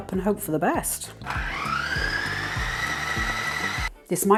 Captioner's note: food processor rumble